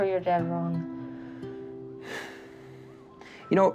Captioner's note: exhales